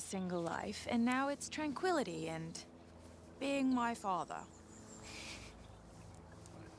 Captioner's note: chuckles